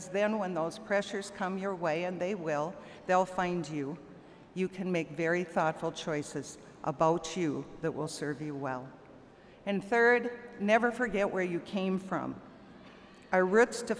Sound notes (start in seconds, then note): none